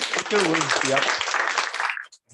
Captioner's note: applause